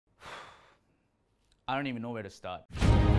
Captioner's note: sigh